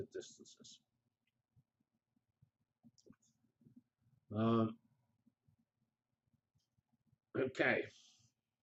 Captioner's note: pause